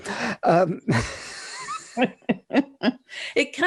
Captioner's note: both laughing